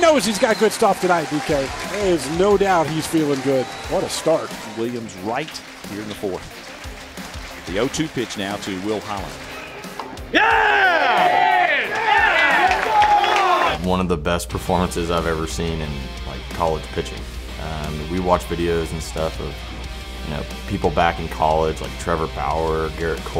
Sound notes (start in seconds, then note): 10.3 cheering